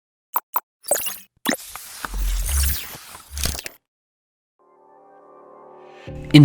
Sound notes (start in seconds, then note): 0.8 mechanical whirring